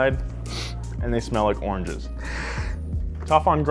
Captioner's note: sniffs